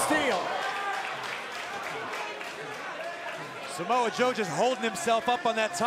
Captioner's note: crowd cheering